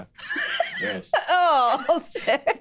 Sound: Jasmine laughs

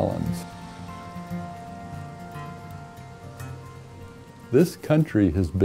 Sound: rain falling

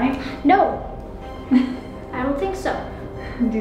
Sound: laughs

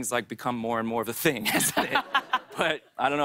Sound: both laugh

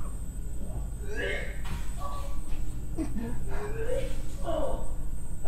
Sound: the sound of arthur being sick from the other room; arthur screams from the other room

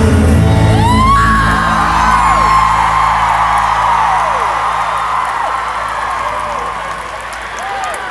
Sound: audience cheers

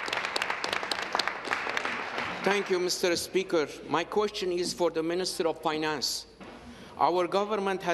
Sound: applause

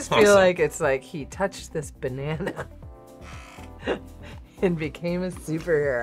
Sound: laughs

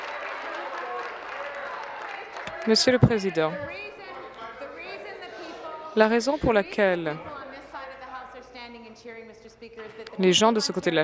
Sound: applause

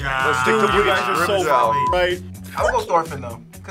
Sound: beep

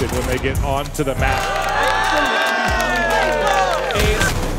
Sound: group cheering

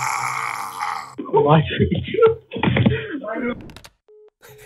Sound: other scammers laughing at him

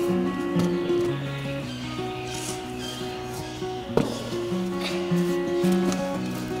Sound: voices echo in the cave

